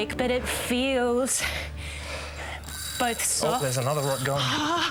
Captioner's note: whirring